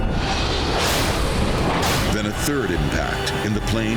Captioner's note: plane screeching